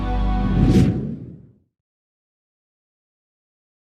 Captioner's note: screen swooshes